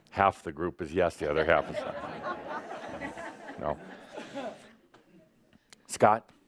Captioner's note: laughter